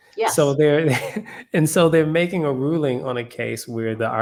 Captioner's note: laugh